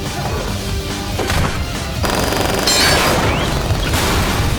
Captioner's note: metal clanking; gun firing; blows thudding; fire whooshing